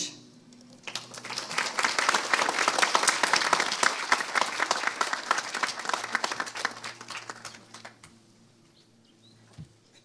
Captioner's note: applause